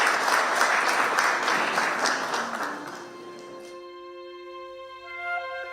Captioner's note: applause